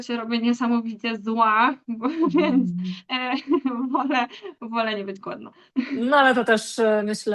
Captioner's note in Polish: śmiech